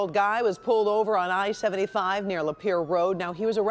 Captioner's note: siren